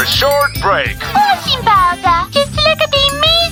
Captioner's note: growls